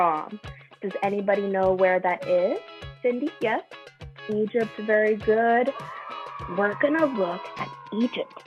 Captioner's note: children cheer